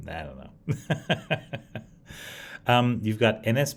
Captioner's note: laughs